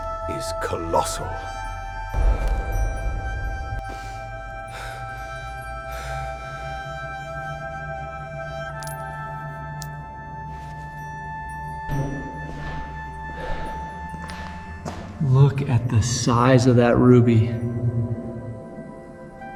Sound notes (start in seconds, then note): 7.4 breathing heavily; 11.8 footsteps